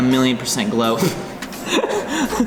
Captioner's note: laughs; snickers